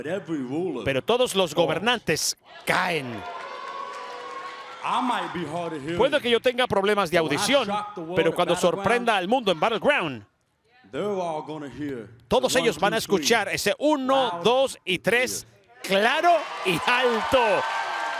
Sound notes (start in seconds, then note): 2.7 applause